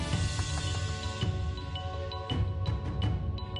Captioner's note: knocking